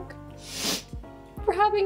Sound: Madelaine sniffs

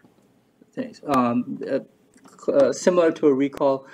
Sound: stutters

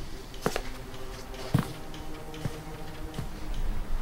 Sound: footsteps walking away

